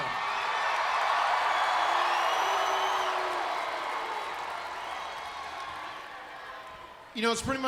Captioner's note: crowd cheering